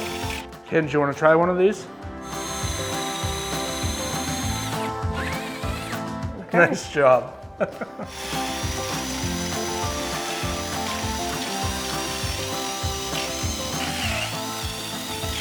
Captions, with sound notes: - Ken, do you wanna try one of these? (upbeat music) (drill whirring) - Okay. - Nice job. (laughing) (upbeat music) (drill whirring)